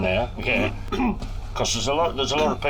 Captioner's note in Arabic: يضحك